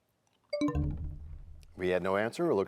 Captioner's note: bell chimes, time expires